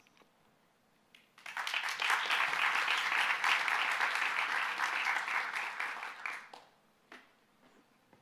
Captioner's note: applause